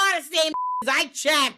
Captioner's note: beep